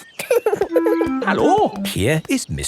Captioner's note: laughing